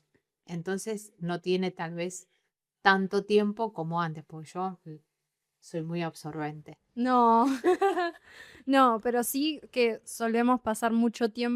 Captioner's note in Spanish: risas